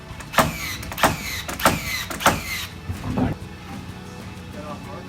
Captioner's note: nail gun whirring